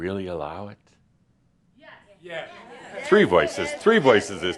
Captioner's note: a few people shout “Yes”